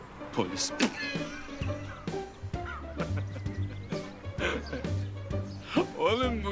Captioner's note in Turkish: Gülüyorlar